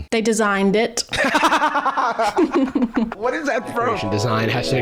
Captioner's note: cackles